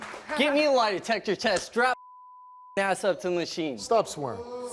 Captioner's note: beep